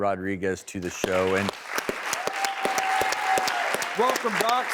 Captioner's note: applause; crowd cheers